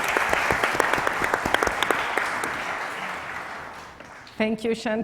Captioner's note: audience clapping